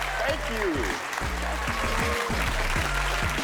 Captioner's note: crowd cheering; upbeat music